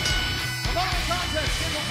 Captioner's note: bell ringing